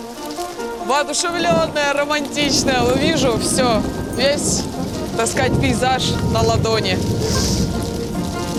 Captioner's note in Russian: саркастически